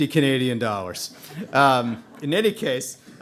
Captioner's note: audience laughing